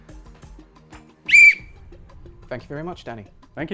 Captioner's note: blows whistle